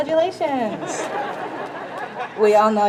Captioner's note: crowd laughs